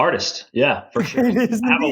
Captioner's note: laughs